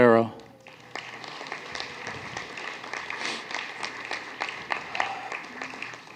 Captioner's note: applause